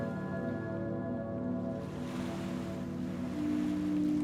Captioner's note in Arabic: الأمواج تضرب الشاطئ